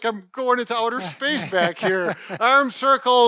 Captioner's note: laughs